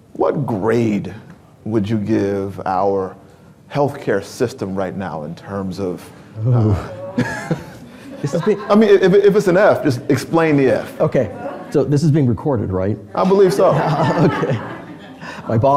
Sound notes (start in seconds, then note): 6.4 laughs